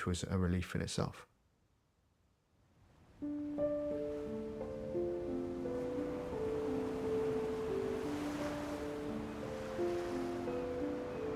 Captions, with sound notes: which was a relief in itself. [waves crashing] [gentle piano music]